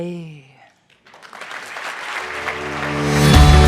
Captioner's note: audience claps; upbeat music